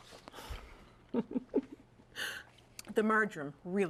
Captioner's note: laughter